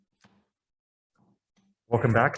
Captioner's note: gavel taps